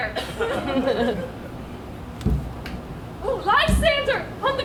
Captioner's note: audience laughs